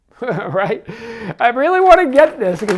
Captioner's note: laughs